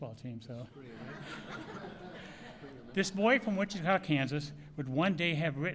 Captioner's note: laughter